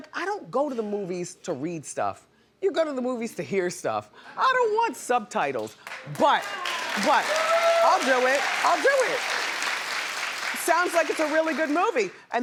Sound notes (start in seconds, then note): 5.8 audience applauds